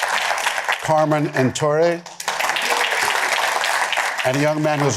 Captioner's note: applause